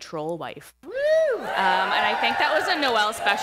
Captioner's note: cheering